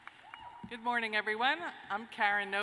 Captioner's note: cheers and applause